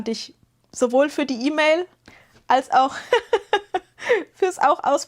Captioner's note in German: gelächter